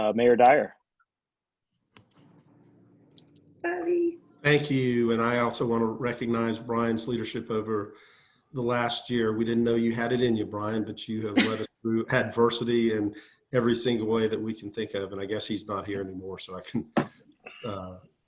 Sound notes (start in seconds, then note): 11.2 chuckles